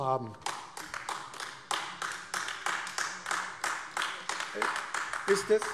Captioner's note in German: Beifall AfD